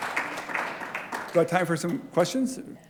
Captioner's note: applause